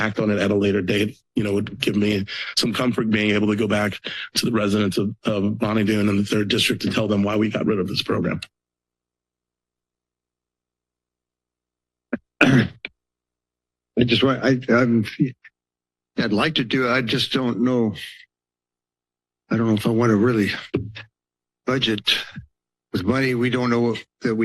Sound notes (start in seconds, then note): 8.5 silence; 12.1 clears throat; 13.0 silence; 18.1 pause